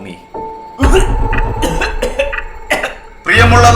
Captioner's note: coughing